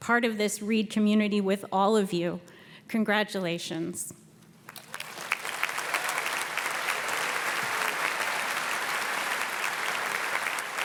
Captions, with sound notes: part of this Reed community with all of you. Congratulations. (audience cheers and claps)